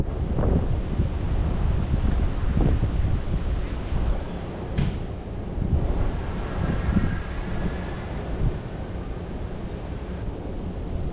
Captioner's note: wind blowing